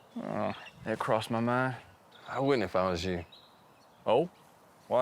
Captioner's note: none